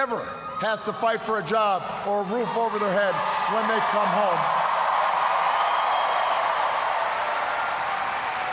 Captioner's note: cheers, applause